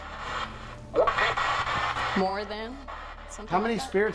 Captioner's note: spirit box voice